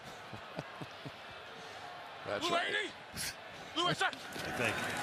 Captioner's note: chuckles